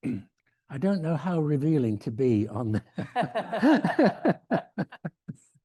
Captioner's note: laughs